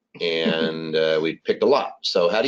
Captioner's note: chuckles